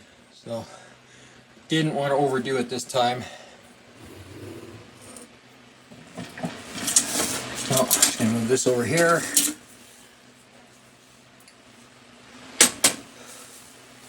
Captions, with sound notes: So, didn't wanna overdo it this time. (mixer whirring) Oh, and move this over here.